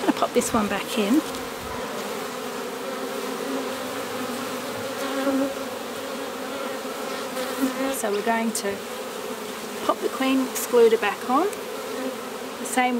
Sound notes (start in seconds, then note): 2.7 bees buzzing